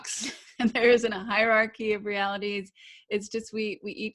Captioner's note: laughs